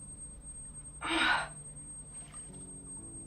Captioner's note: Sarah gasps